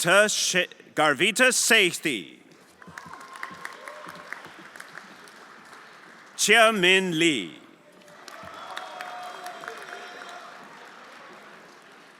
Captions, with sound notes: Garvita Saekty. (everyone applauding) Chia Min Li. (everyone applauding)